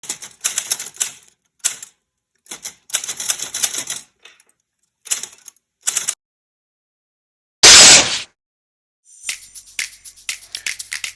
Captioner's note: typing